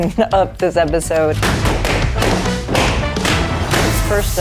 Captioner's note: balloons popping